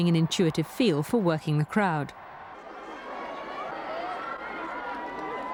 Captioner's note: people shouting